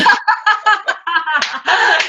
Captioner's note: laughing